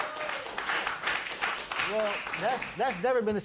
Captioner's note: applause